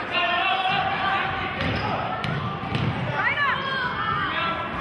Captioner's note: yelling